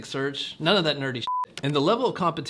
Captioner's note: beep